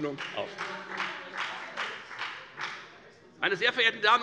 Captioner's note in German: Beifall bei der FDP